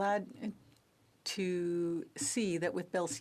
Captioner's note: speaking French